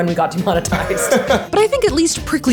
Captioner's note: laughing